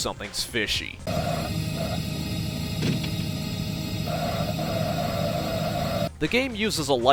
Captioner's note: repetitive Virtua Racing tire squeal